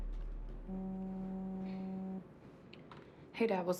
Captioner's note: phone vibrating